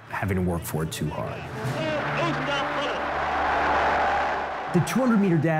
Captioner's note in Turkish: Kalabalık tezahürat ediyor